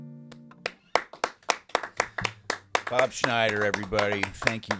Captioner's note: clapping